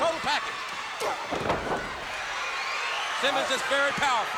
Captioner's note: crowd cheering; body thudding